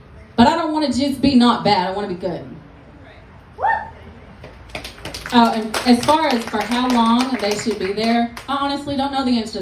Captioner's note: applause